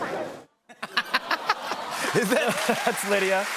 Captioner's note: audience "Awws"; laughter